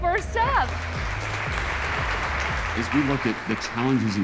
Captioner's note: audience applauding